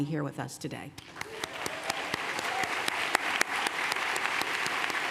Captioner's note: applause